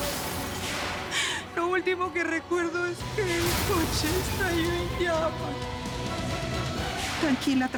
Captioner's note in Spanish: Estrépitos del accidente